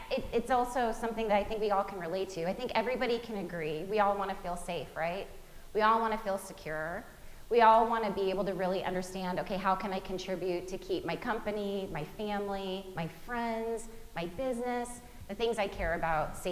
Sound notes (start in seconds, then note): none